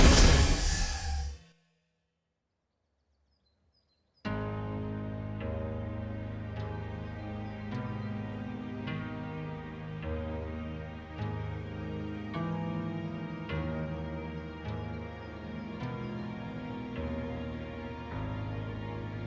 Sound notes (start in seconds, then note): 0.1 monster rasping softly; 3.0 birds chirping; 5.1 soft orchestral music; 15.0 soft orchestral music continues